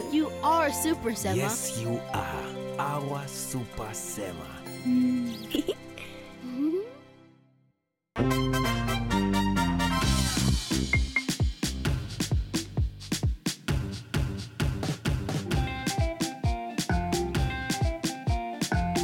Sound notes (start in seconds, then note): 5.2 giggling; 8.2 theme music